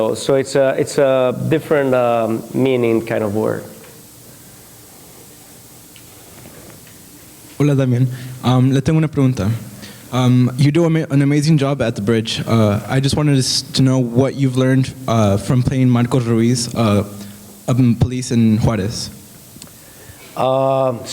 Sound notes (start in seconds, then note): 8.7 spanish